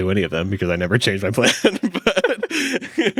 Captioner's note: laughs